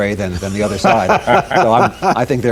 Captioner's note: laughter